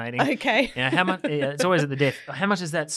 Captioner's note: laughs